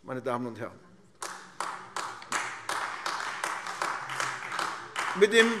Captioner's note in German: Beifall AfD